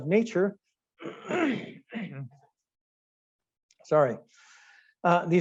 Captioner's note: clearing throat